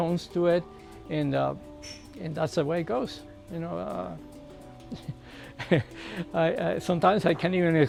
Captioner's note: laughs